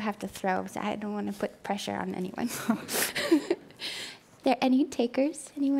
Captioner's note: laughing